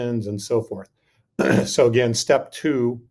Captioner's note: clears throat